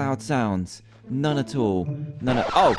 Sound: record scratches

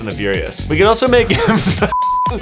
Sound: beep

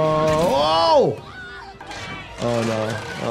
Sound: Nora shrieks

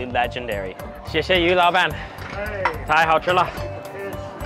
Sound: speaking Mandarin

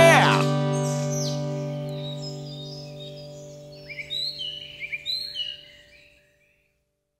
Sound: birdsong and nature sounds

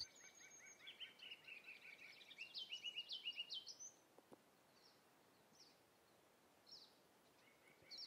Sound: sounds of birds

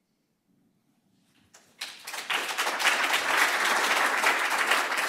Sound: applause

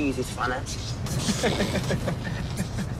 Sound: laughs

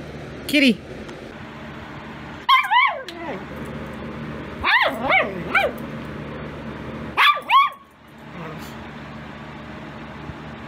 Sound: Ella barks

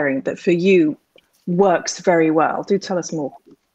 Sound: none

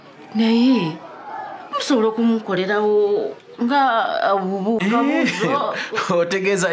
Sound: chuckles

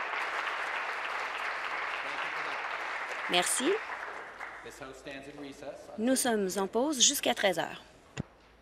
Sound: applause

